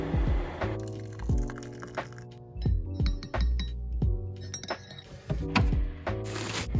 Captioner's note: spoon stirring; water pouring